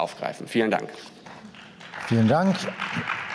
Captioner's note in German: Beifall